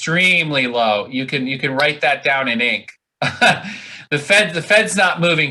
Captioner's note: laughs